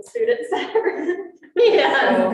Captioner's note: students laughing